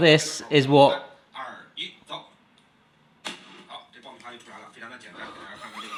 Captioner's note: man speaking foreign language